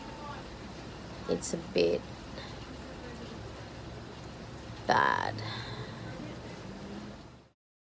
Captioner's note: breathes out audibly